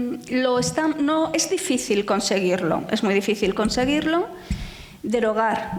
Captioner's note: speaking in foreign language